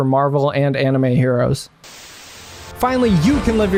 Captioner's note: static